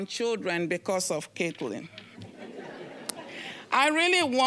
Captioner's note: audience laughing